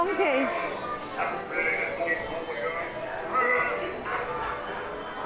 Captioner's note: speaking in French